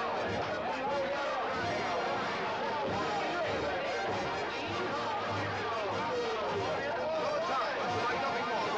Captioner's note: noisy celebration of Cyrano's defeat of 'a hundred' ruffians